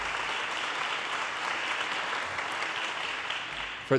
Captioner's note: audience cheers and applause